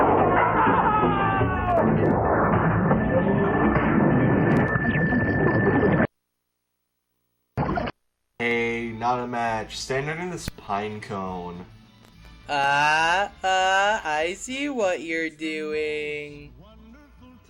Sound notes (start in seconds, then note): 0.5 man screams in pain; 3.0 sci-fi beeps gradually getting faster